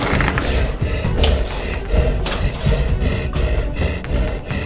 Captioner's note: creature panting